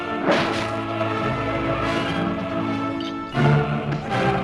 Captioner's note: sword slices